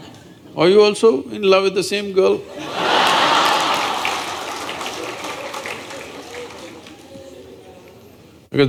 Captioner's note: laughter/Applause